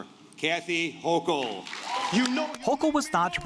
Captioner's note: cheers and applause